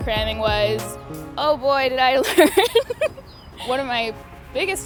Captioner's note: laughs